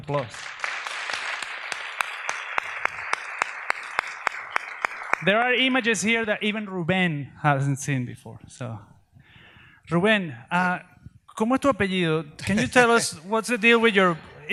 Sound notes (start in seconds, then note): 0.1 audience applauds; 10.0 speaks in Spanish